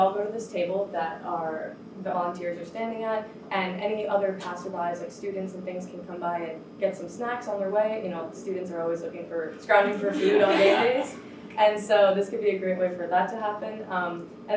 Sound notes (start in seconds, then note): 10.0 all laughing